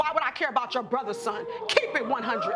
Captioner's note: audience exclaiming